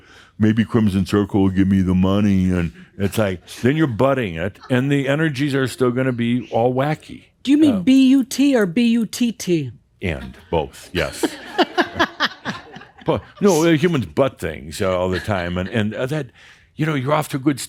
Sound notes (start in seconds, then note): 11.0 laughs